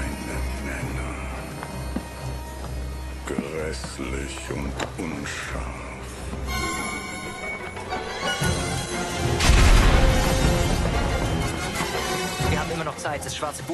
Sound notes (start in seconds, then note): 8.1 orchestral music; 9.3 lightning explodes